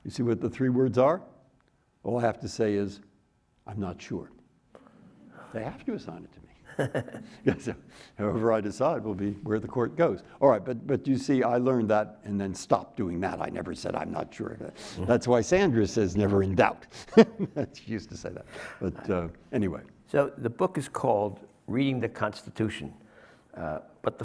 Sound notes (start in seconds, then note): 6.6 laughing; 17.0 laughs